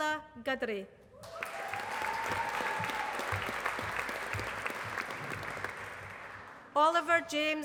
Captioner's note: applause